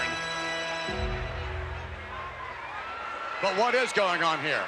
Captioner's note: bell tolls